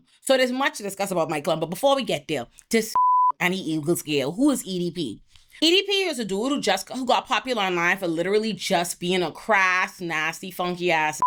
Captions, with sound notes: So there's much to discuss about Mike Clum but before we get there, just (beep) I need Eagles care. Who is EDP? EDP is a dude who got popular online for literally just being a crass, nasty, funky ass